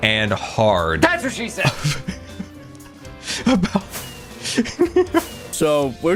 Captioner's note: snickers; laughs